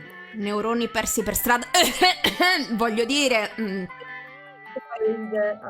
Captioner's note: cough